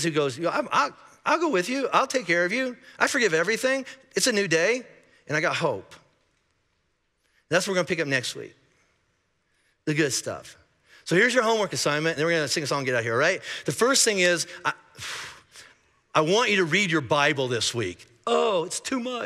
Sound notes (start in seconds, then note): 14.9 sighing